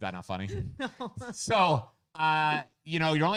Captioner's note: laughing